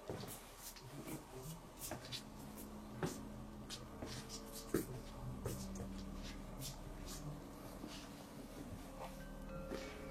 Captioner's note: footsteps